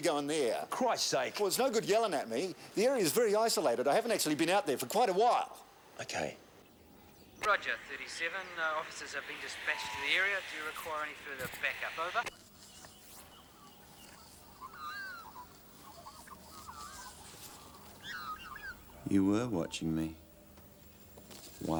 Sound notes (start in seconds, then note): 7.4 police Radio